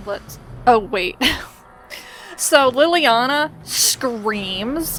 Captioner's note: laughs